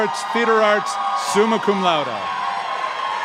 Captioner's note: applause